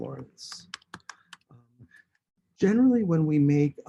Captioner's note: keyboard tapping